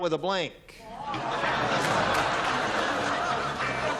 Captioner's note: laughter